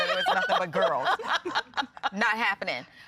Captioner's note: laughing